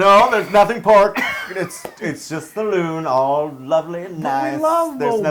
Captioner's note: laugh